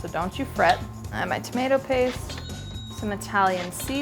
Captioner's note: cash register chimes